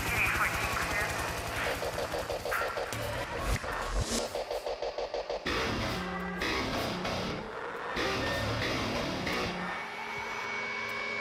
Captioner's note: helicopter